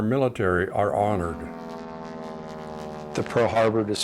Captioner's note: propeller airplane flying over